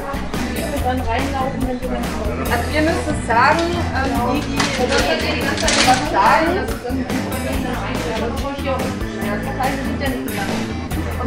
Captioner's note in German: Musik, Gemurmel, Schuhgeklapper